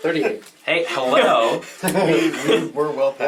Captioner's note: all laugh